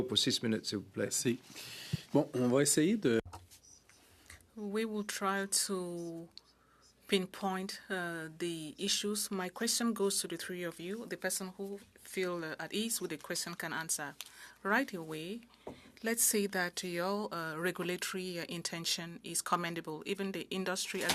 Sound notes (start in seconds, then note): 6.9 speaking French